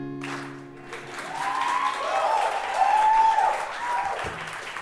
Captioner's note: audience clapping; guitar strumming; audience cheering